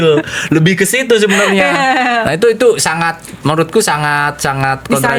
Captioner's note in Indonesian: tertawa